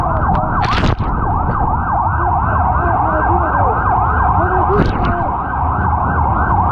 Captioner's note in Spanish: Sonido del agua contra la cámara